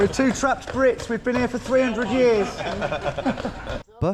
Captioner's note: both laughing